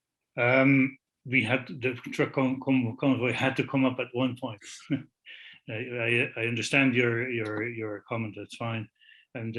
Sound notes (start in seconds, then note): 4.6 laughs